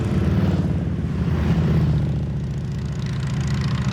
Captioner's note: engines rumbling